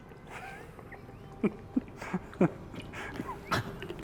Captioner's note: laughs